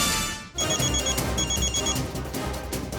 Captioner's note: mobile phone ringing